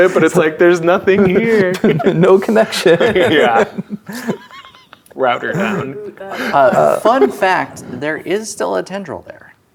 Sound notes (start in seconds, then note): 1.2 laughing